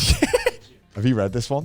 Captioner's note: laughs